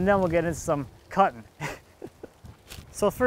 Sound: laughing

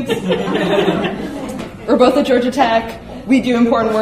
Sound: laughing

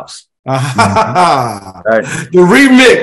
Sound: chuckles

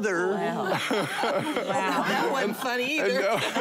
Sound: laughing

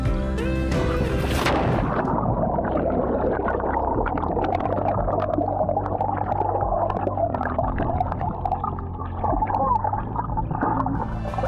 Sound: water splashing

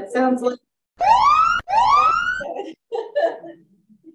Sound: siren blaring

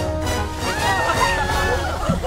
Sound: laughing; chuckling; screeching

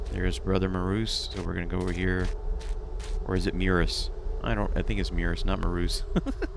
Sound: laughs

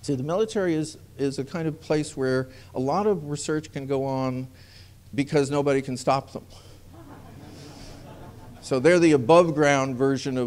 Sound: laughter

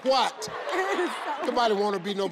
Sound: audience laughs

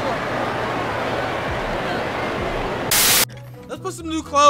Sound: crowd cheering

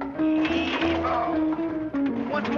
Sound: groaning

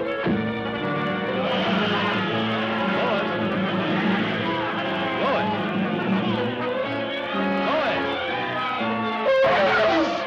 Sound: commotion; elephant yelling

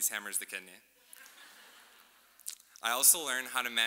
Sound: laughing

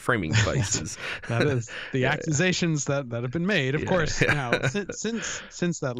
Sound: chuckle

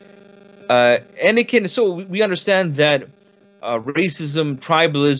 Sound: speaks in foreign language

